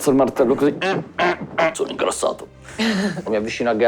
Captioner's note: struggling noises